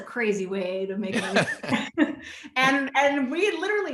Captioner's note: both laughing